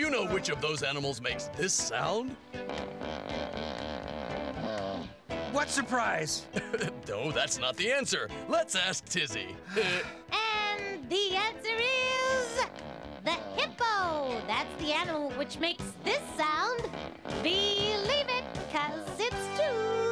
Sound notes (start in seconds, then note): 2.6 animal sound